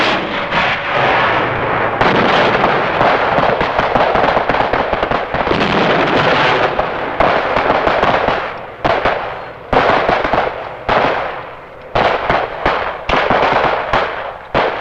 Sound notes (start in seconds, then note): 0.6 explosions booming; 5.3 guns blasting; 11.1 explosions booming